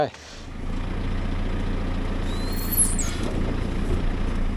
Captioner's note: telehandler rumbles